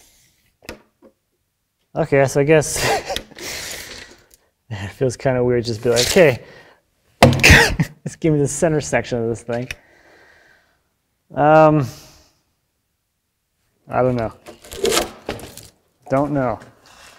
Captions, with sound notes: Okay, so I guess (laughs) it feels kind of weird just be like hey (bangs hands) just gimme the center section of this thing. I don't know. (wood cracks) Don't know.